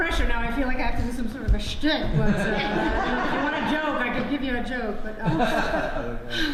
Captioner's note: audience laughs